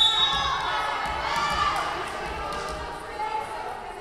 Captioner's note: whistle blowing